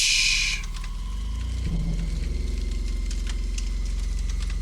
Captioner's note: fire crackling